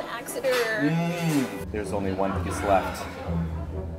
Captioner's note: sighs